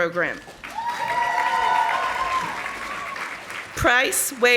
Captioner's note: audience applauding